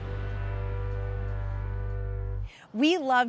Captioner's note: oscillating tone